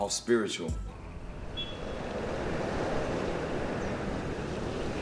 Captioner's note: traffic humming